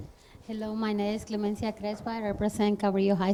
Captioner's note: speaks with heavy accent